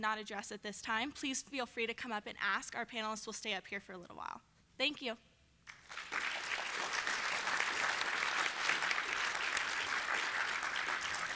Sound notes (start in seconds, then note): 5.6 applause